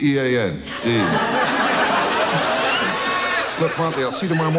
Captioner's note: audience loudly laughs